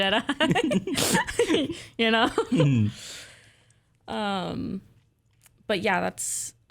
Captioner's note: laughing